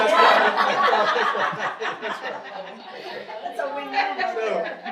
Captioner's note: audience laughing